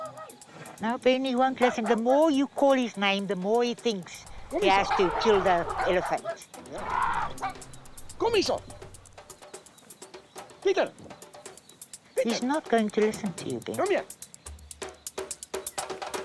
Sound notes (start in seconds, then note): 1.6 continues barking; 8.7 speaking foreign language